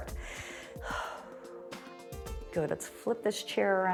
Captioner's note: inhales and exhales